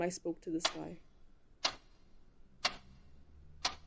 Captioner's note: clock ticking